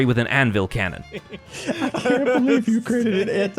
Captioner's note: laughing